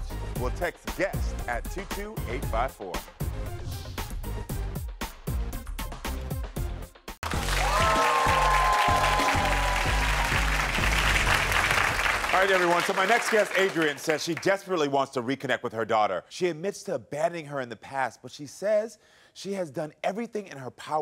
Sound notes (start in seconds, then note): 3.4 upbeat music; 7.2 intense music; 7.2 audience applauds